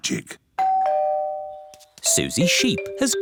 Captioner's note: doorbell